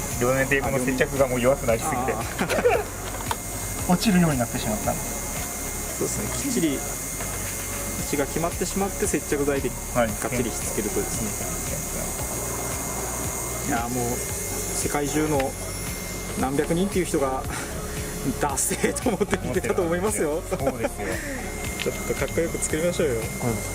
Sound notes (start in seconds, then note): 20.2 laughs